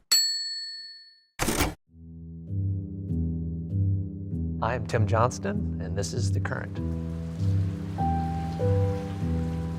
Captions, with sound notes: (ding) (typewriter noise) (ominous music) - I am Tim Johnston, and this is The Current. (ominous music)